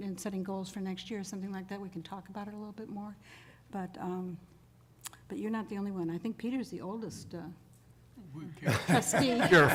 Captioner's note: laughter